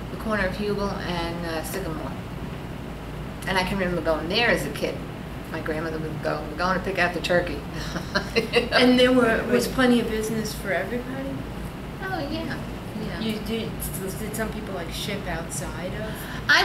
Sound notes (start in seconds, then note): 7.8 laughs